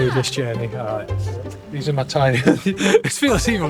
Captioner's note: awkward laugh